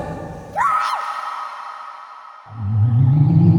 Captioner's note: scream